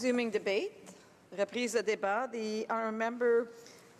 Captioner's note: speaking foreign language